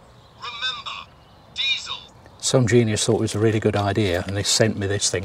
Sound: electronic voice

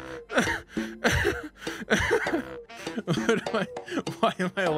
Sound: sobbing

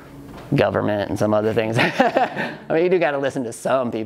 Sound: laughs

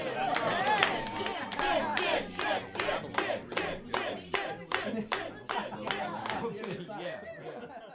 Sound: chanting "gin, gin, gin, gin!"

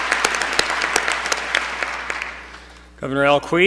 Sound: applause

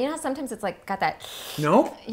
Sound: sucking

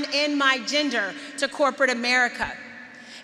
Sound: none

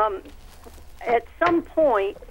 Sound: laughing

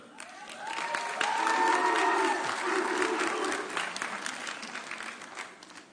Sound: audience cheering

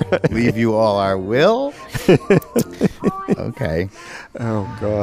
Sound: laughs

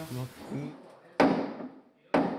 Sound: hammering

